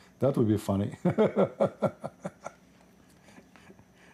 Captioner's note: ketawa